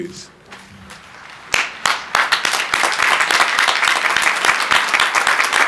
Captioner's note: crowd applauding